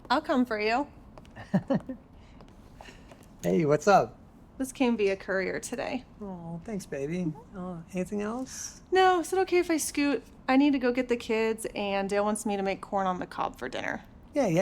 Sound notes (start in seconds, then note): 1.3 mayor laughing